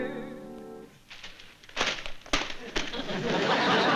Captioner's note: singing; rustling